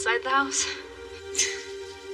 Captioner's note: laughing